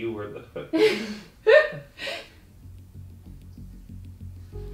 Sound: laughs

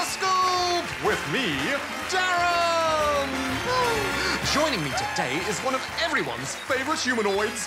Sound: canned applause

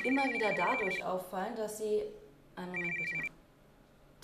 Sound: cell phone ringing

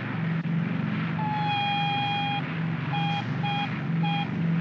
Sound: aircraft rumbles; ominous beeping

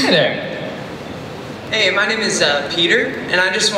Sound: voiceover

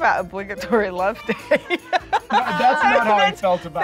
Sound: laughs

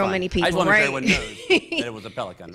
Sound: laughter

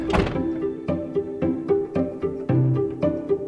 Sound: RV door slams; suspenseful music

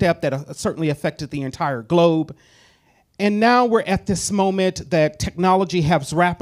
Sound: none

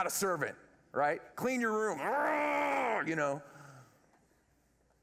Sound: grrrr

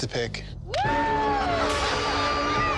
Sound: shouts; contestants cheer

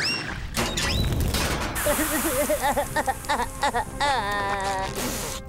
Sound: crying

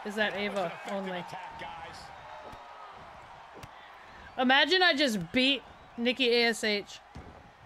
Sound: applause

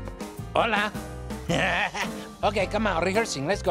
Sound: laughs

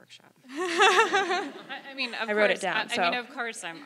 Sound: laugh

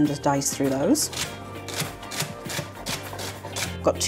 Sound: chop chop chop

